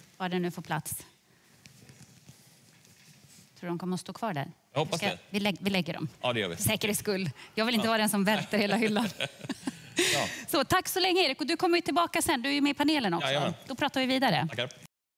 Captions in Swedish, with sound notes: Var den nu får plats. Tror du att de kommer stå kvar där? - Jag hoppas det. - Vi lägger dem. - Ja det gör vi. - För säkerhetsskull. Jag vill inte vara den som välter hela hyllan. [Skratt] Så tack så länge Erik och du kommer ju tillbaka sen. Du är ju med i panelen också. - Då pratar vi vidare. - Tackar.